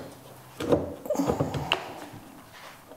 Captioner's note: intense groan